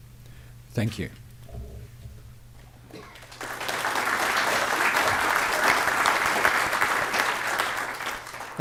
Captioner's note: applause